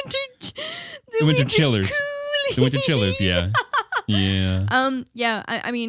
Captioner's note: both laughing; laughing